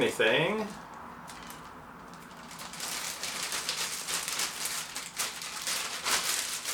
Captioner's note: plastic bag noise